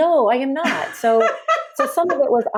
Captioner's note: laughs